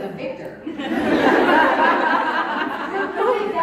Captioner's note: crowd Laughing